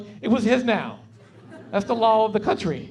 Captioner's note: laughing